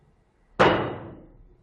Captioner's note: clank